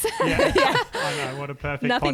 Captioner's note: laughing together